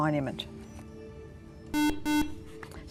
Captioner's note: buzzer